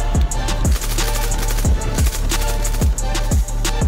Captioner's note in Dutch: geweerschoten